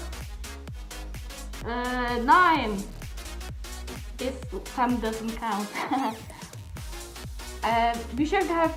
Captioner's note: laughs